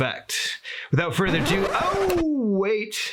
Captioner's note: record scratches